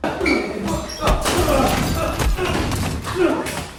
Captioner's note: blows landing